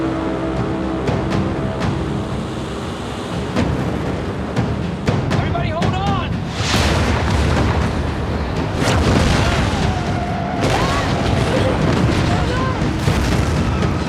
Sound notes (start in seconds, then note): 6.5 explosions; 9.3 screams